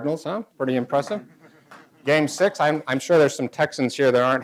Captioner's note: weak applause